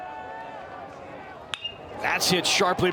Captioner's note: bat dings